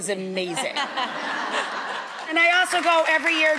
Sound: audience laughing

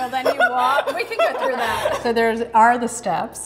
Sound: Sydney laughs

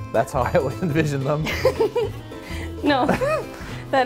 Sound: laughing

